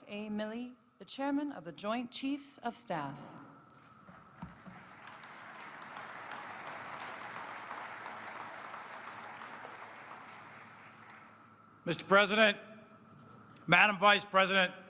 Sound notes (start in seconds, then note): 4.5 applause